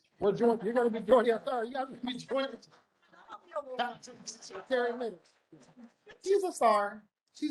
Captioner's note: chatter